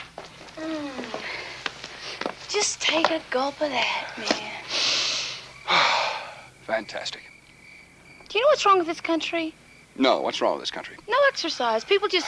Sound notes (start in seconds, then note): 4.5 Joe exhales; 5.6 Joe inhales